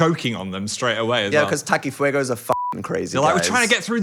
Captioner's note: beep